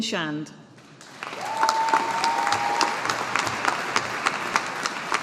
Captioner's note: audience applauding